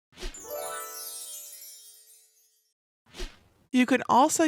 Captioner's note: fairy dust sound effect